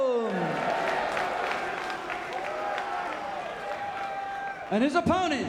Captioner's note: crowd cheering and clapping